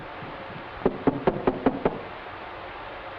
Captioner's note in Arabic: طرق الباب